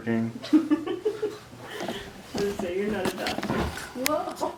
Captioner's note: laughs